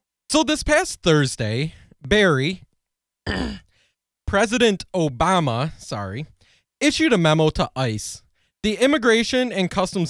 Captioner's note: cough